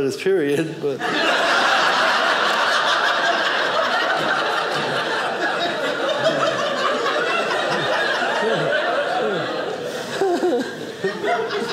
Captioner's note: audience laughing